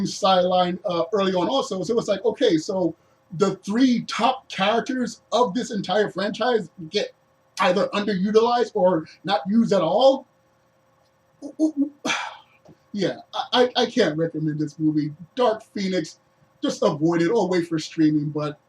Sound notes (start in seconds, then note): 11.4 confused grunts